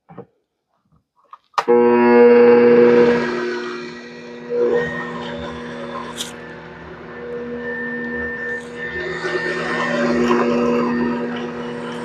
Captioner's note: mixer sound